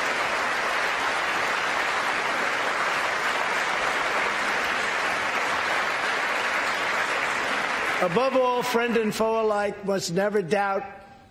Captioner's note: applause